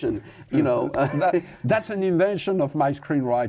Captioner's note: laughs